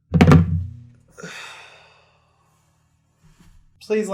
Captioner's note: sighing